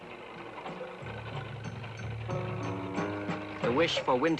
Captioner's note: engine revving